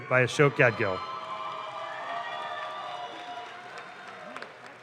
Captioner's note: audience claps